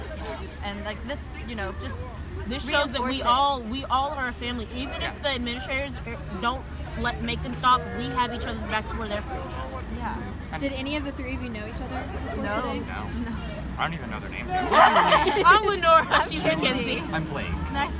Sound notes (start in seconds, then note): 14.6 laughing